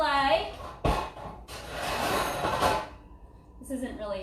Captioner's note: metal clanging